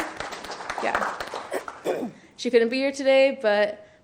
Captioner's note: clapping